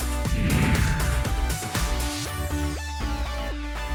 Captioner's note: credits whooshing; bright upbeat music continues